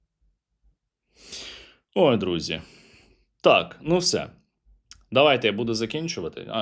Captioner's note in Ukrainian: сопіння